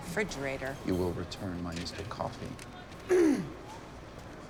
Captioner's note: clears her throat